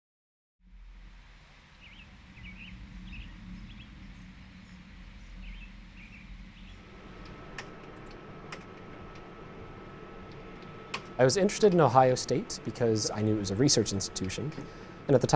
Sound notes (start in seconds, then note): 2.0 birds chirping